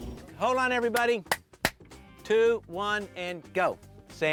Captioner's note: director claps hands